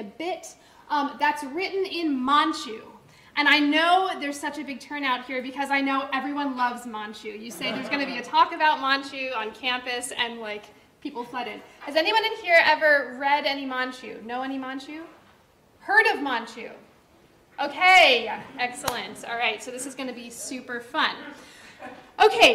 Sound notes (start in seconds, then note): 7.5 audience laughter